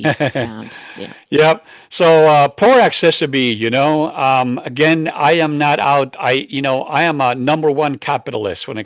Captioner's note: laughs